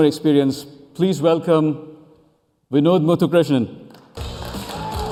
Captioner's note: cheers and applause